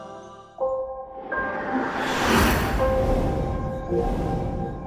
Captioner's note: whooshing sound